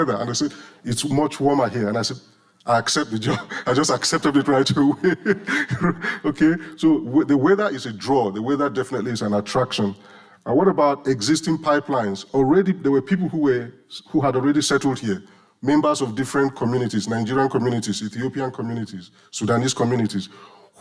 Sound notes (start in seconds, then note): 3.1 laughing